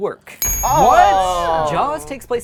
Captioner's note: bell dings; groaning